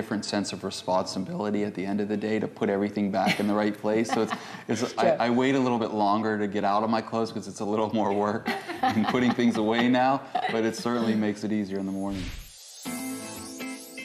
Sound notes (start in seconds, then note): 3.2 laughter